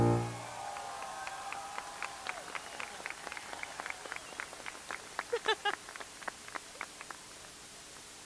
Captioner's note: applause